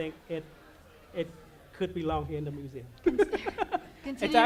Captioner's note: laughter